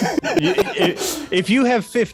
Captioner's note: laughing